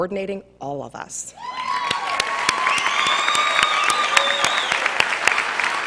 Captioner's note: cheers and applause